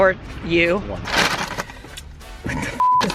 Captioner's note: bag rustling